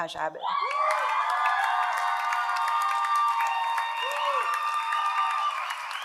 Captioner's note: audience cheers and applauds